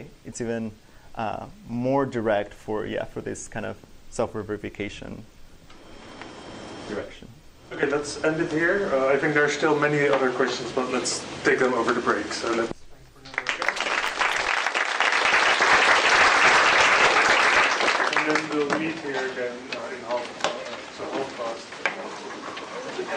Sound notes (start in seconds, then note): 13.2 applause